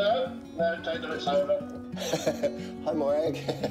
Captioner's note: laughs